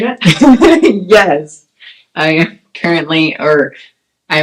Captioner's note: laughs